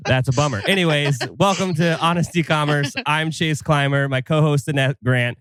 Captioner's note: laughs